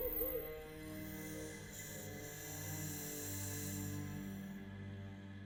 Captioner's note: owl hooting; snake hissing